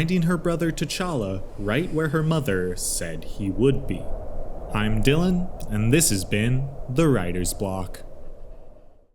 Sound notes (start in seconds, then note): 4.2 wind whooshes